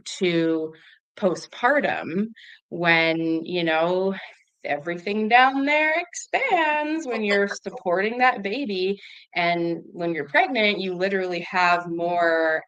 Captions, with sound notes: to postpartum when, you know, everything down there-... expands- (laughs) ... when you're supporting that baby. And when you're pregnant, you literally have more